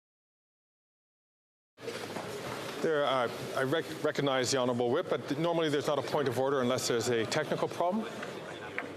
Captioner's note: chatter